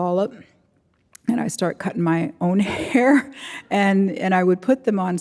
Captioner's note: chuckles